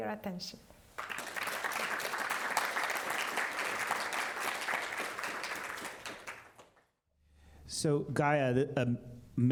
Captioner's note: applause